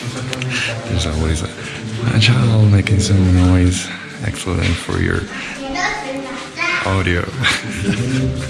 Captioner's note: laughing